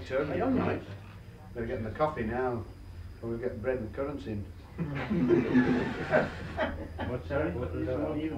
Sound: laughter

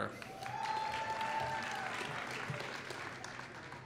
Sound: applause

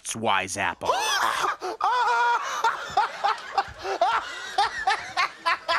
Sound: laughing hysterically

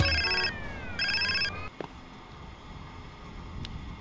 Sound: phone Rings

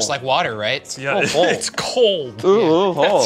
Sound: laughs

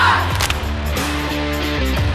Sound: lound clap

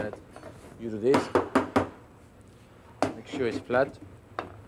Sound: knocking

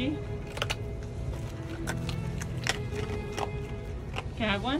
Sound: background music; sound of otter cracking and crunching ice chunk

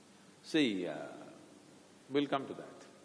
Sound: none

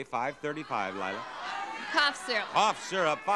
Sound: audience cheering

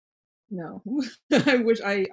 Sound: laughs

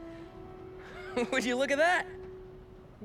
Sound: laughing

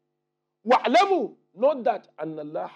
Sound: Arabic

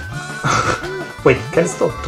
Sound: subtle laughter

